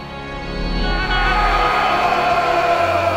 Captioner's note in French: cris de guerre